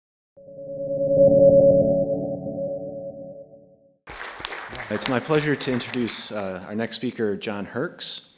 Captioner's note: applause